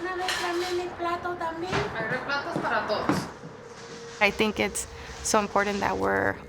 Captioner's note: women speaking Spanish